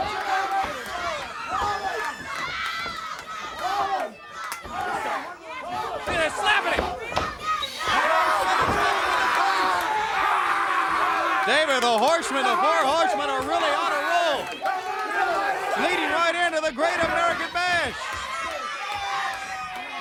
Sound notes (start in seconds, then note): 0.1 fans shouting; 8.8 horsemen shouting